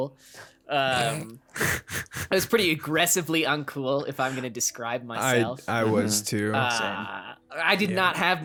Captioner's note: laughs